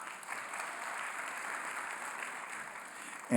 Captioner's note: applause